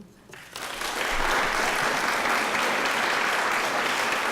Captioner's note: applause